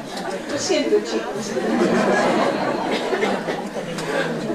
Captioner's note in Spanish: Risas